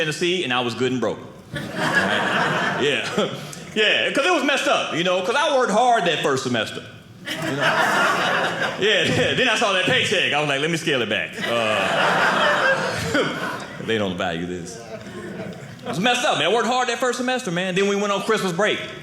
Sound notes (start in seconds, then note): 7.2 audience laughing; 11.3 audience laughing